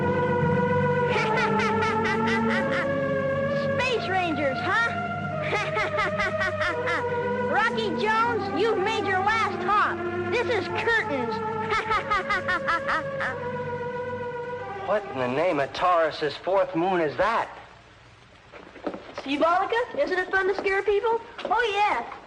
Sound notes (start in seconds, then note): 5.4 laughing; 14.6 laughing